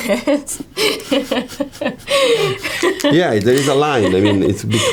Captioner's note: Taylor laughs